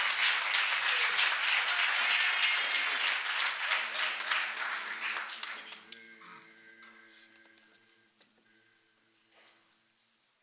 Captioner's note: cheers and applause